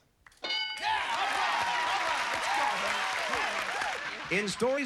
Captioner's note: cheers and applause